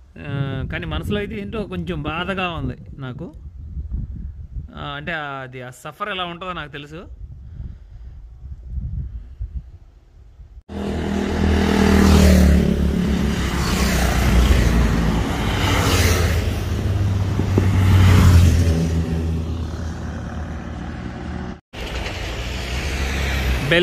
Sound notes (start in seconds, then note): 6.6 wind gushing; 10.7 vehicle sound